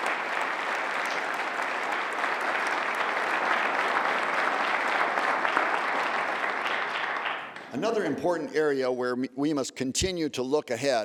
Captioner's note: applause